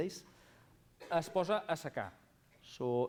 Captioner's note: non-english speech